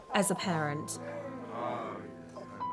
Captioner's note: laughing